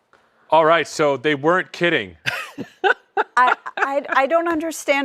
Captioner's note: laughter